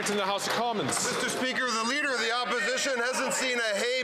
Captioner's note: some Applause